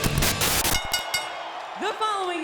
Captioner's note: upbeat rock music; audience cheering; screen hisses; bell rings